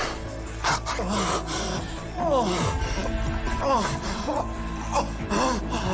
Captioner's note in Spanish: Gemidos